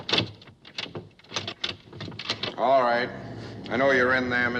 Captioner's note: door handle rattling